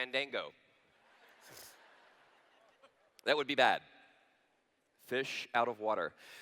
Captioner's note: laughter